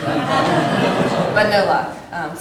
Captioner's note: laughter